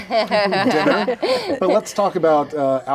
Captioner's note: both laughing